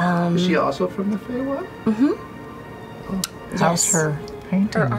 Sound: none

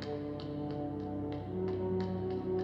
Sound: none

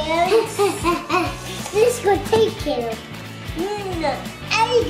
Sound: bubbles excitedly

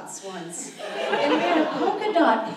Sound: audience laughs

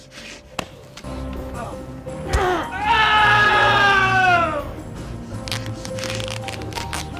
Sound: knife thuds; man yelling

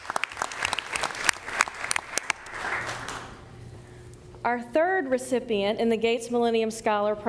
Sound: applause

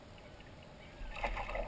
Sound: splash

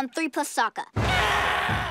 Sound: groaning

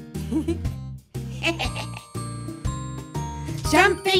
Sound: laughing

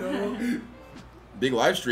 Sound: laugh

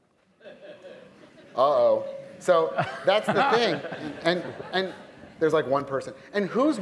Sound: laughter

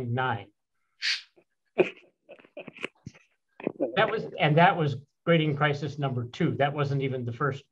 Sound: laughter

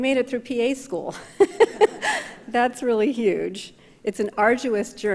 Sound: laughs

